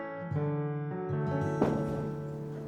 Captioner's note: crowd chatter